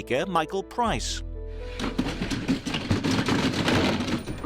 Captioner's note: slamming